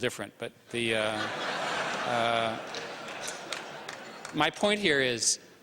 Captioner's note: laughter